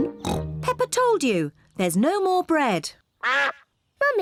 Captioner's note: snorts; quacks